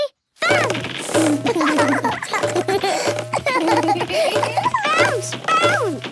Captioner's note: both laugh